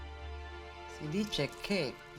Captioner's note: speaking Italian